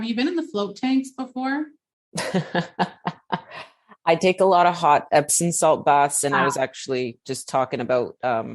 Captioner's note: laughter